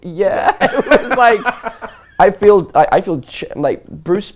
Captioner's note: laughs